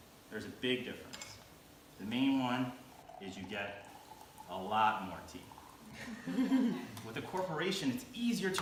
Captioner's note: chuckles